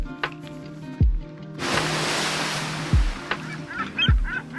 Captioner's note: sound of waves crashing; sound of seagulls calling